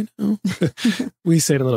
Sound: laughing

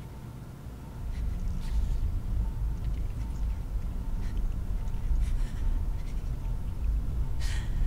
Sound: frenzied breathing

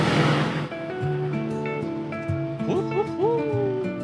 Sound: the passion of an engine that won't turn off

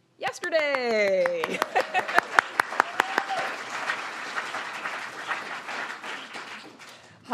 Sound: claps; all applaud; laughs

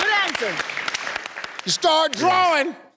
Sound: slaps

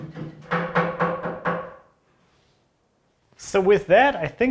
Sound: hammer knocks

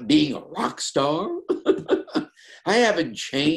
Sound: laughs

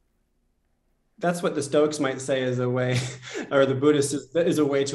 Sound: laughter

